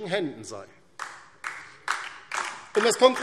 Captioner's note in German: Beifall DIE LINKE und vereinzelt SPD